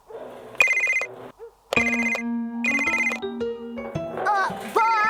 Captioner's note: phone Rings